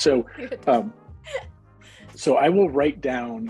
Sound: laughing

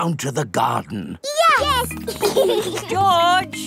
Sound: giggling

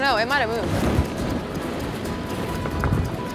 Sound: adventurous music continues; balls rattling

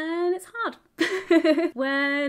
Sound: laughs

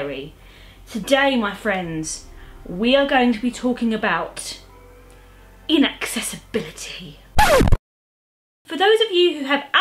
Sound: record scratching

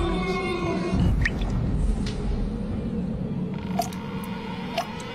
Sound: water tapping loudly

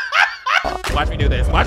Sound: video buzzing

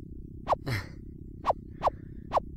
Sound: laughs

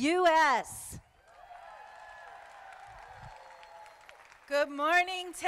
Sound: crowd applauding

